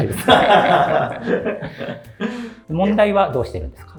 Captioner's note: laughing